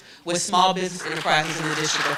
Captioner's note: applause